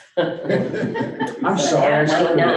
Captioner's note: board members chuckling